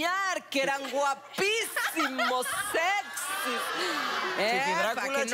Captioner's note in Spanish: Risas